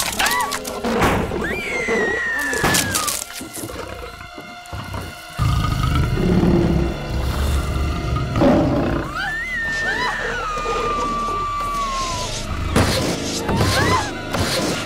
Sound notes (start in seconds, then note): 9.7 Roars